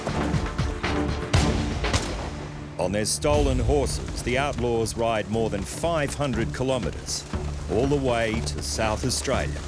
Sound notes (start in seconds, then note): 0.8 rifle shooting